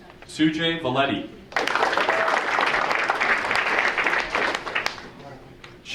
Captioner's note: audience applauding